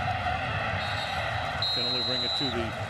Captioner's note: whistle blows